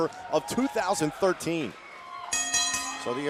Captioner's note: bell ringing